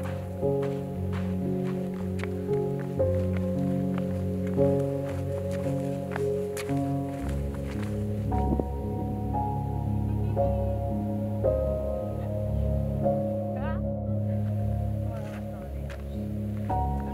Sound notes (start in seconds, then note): 5.1 footsteps on rock